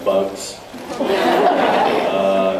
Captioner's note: laughs